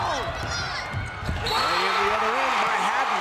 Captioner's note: crowd cheers